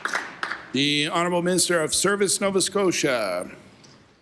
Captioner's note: applause